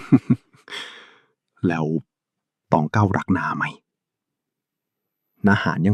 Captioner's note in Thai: เสียงหัวเราะ